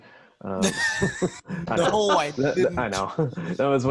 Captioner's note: laughs